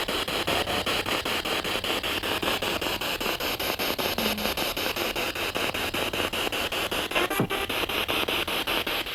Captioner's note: sound of the Spirit Box in the background